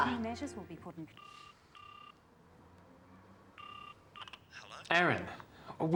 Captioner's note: phone ringing